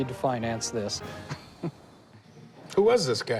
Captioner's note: chuckles